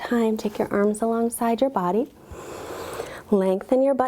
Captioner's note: inhales deeply